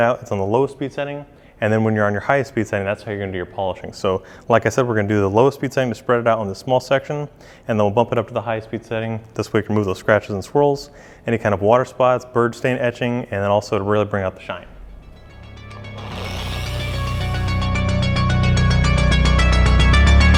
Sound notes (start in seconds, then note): 15.6 whirring; 17.0 ambient techno music